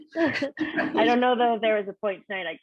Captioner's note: all laughing